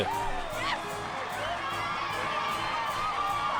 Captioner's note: crowd cheering